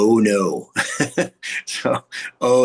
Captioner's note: laughing